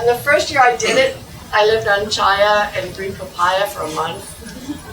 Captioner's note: laugh